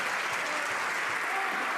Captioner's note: some Applause